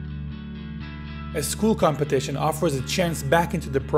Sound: voiceover

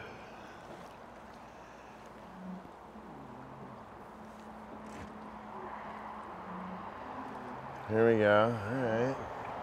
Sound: laughing

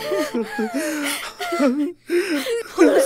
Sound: cries and gasps

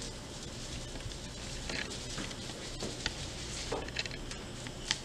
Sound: litter sprinkling

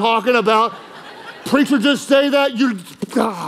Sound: congregation laughing

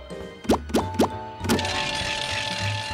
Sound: bell ringing

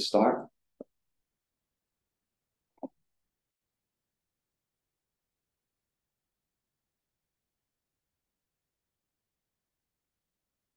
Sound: silence

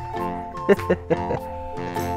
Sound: laughs

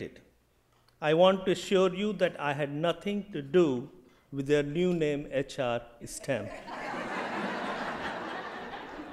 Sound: laughter

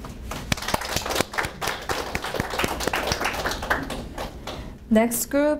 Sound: audience applauding

